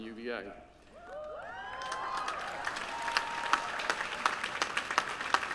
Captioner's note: applause